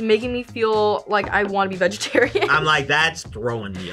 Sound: laughs

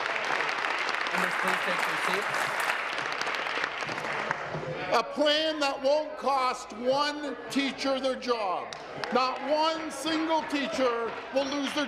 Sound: some Applause

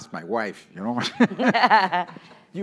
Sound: laugh

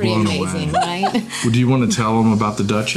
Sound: laughing

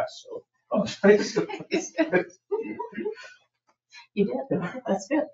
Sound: people chuckle

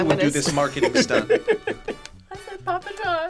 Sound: laughs

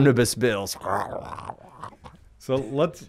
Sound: growling

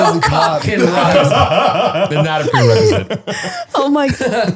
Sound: they laugh

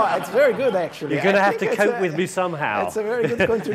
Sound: chuckles

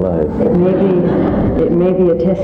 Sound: audience laughs

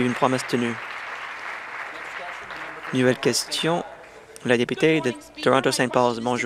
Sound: applause

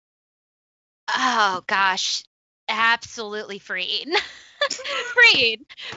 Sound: laughs

